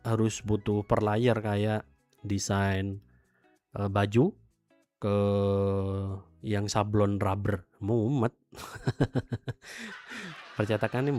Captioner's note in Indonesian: tertawa